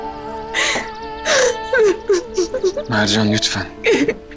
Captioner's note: sobs uncontrollably